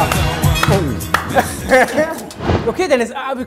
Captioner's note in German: Sie lachen